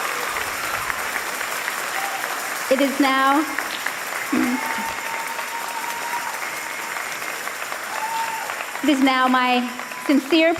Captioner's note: applause and cheers